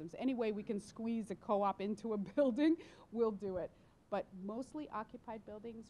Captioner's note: none